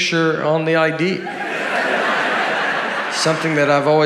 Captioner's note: audience laughing